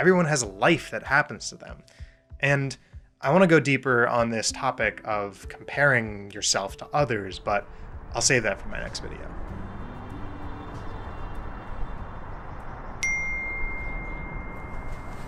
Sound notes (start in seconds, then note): 13.0 phone text chime